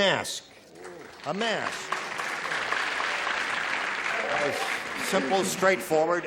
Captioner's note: applause